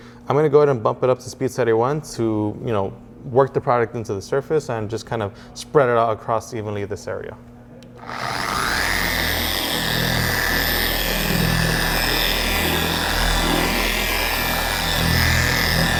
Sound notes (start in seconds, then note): 8.0 DA polisher pad spinning